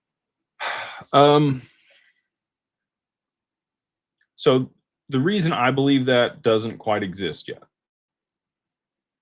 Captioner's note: sighs and gasps